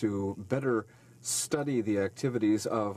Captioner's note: speaking in French